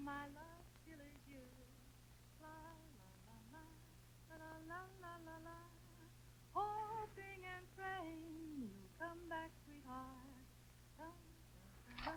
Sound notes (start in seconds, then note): 2.7 woman humming